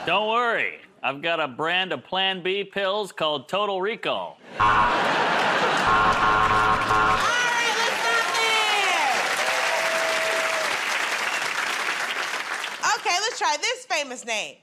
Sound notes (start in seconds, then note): 5.8 buzzer; 9.5 cheers and applause